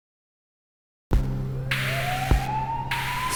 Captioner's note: sirens